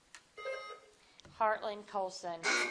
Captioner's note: buzzer dings